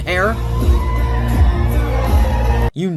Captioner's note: audience cheering